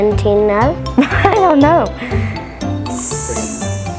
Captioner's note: laughing